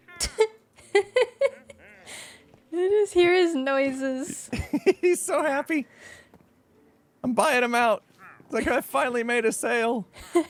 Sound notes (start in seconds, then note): 0.8 laughs; 4.5 laughs; 10.2 laughs